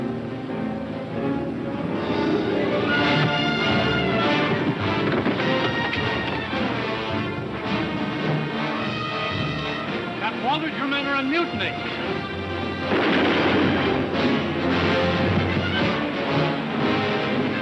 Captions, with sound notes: (body thudding) - Captain Waldridge, your men are on mutiny! (gun firing)